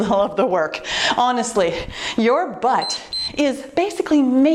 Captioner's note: timer beeps